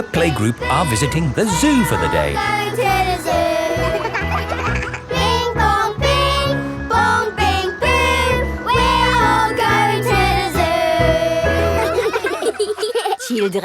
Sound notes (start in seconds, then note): 3.6 giggling; 5.5 all singing; 11.1 children laughing